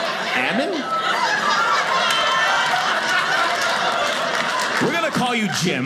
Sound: audience clapping

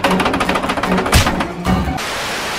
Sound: smack

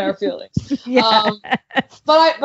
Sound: laughing

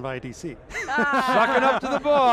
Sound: group laughing

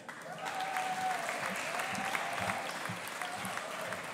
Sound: audience applauding

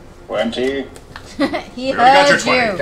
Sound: laughs

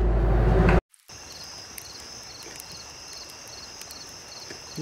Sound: crackling fire and chittering cicadas

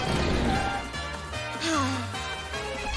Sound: sighing

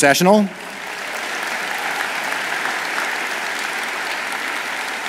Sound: audience applauds

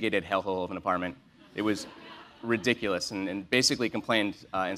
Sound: laugh

